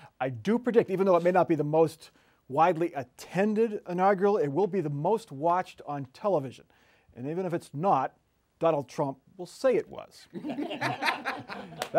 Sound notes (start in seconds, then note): 7.6 laughter